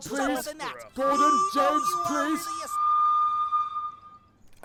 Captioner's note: edward whistles loudly